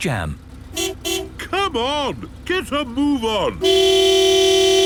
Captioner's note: honking